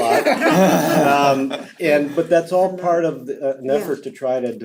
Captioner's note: laugh